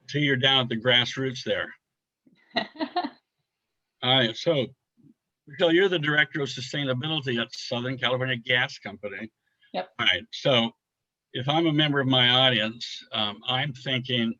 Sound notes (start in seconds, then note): 2.5 laughs